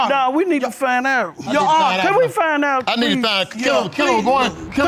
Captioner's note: all arguing